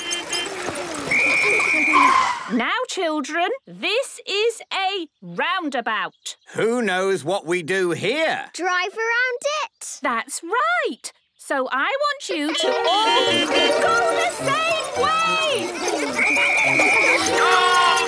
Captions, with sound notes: (whistle blowing) - Now, children, this is a roundabout. - Who knows what we do here? - Drive around it? - That's right! So I want you to all-- (beeping) --go the same way! (whistle blowing) - Stop!!